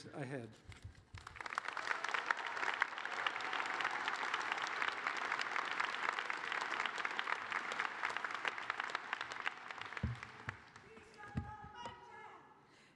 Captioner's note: applause